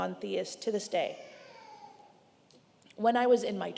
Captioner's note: baby crying